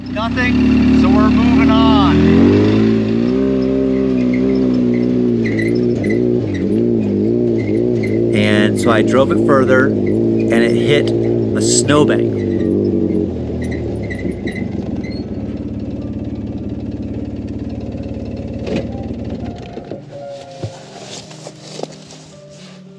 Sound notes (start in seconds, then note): 3.2 engine rumbling; 12.7 engine rumbling; 12.7 vehicle squeaking; 18.7 calm piano music